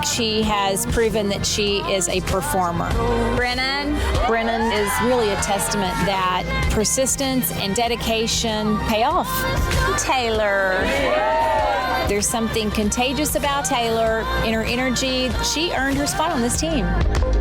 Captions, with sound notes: She has proven that she is a performer. Brennan. Brennan is really a testament that persistence and dedication pay off. Taylor. (women cheering) There's something contagious about Taylor and her energy. She earned her spot on this team.